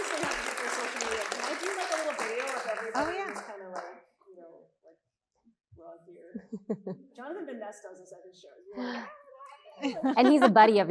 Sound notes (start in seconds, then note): 0.0 audience applauding and cheering; 5.3 faintly speaks; 6.3 chuckling; 8.5 faintly speaking; 9.8 chuckles